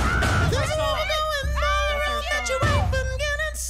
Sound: Mary hollering

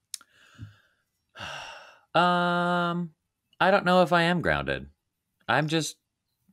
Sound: sighing

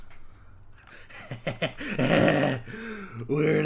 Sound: disgusting elation noises

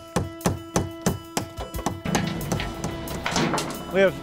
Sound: construction sounds

